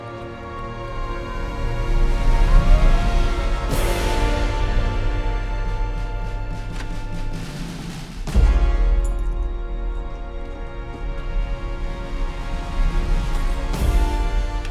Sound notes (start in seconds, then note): 2.1 dramatic music continues; 6.5 door unlocking; 6.5 keys jingling